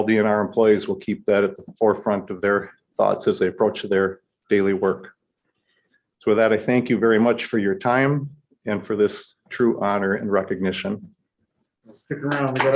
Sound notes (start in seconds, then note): 12.3 applause